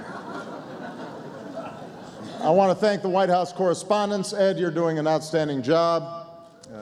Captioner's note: laughter